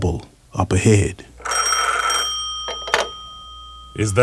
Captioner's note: phone rings